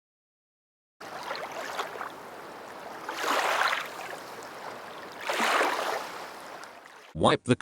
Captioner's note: computer-generated sound effects as tap water flows